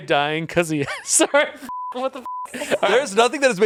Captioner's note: laughs; beep